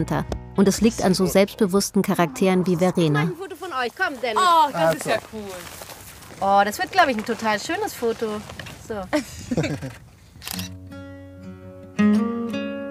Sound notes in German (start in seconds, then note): 9.0 Lachen; 10.6 Ruhige Musik